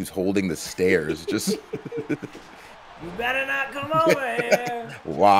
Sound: laugh

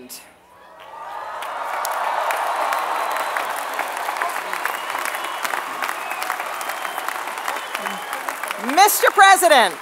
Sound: applause

